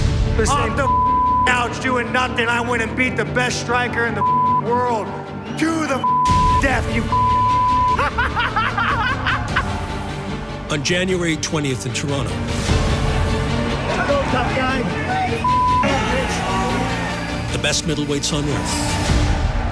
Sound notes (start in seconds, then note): 7.6 du Plessis manically laughing